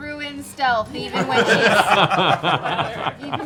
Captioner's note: laughter